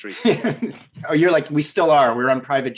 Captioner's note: laughing